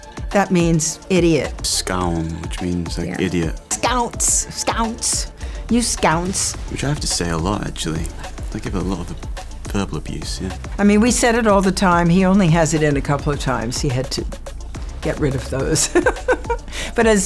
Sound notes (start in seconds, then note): 1.7 speaking na'vi